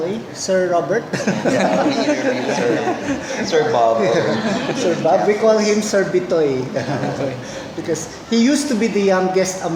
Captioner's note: laugh